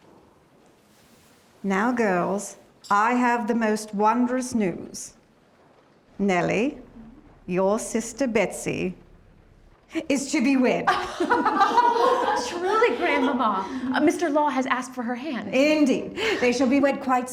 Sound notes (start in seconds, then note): 10.8 laughter